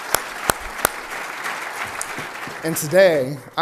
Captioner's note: applause